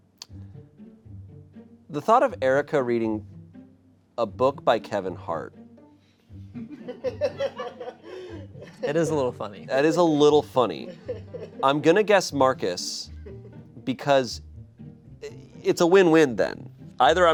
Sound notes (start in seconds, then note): 6.0 crew laughs